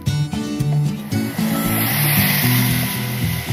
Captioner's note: woosh